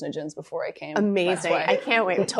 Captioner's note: chuckling